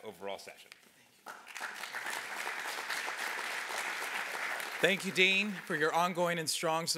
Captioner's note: applause